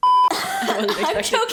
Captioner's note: hakk hakk hakk